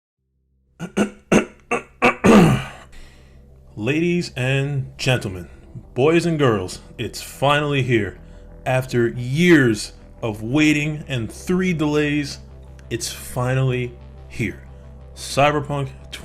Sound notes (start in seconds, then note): 0.8 clearing Throat